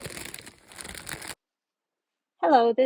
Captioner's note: crinkling plastic